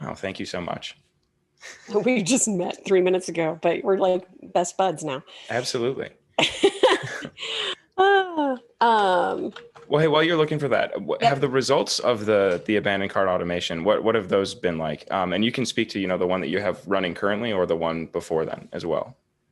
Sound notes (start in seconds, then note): 6.5 laughing